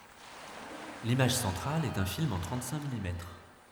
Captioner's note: speaking french